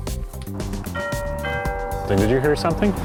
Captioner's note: doorbell